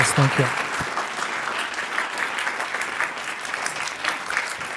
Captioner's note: clapping